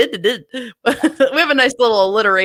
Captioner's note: laughs